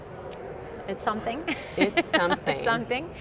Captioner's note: laughs